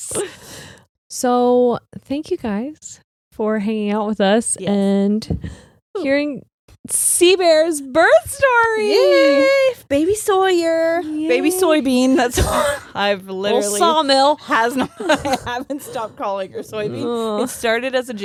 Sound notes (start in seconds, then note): 8.6 cheering; 12.3 chuckling; 14.7 both laughing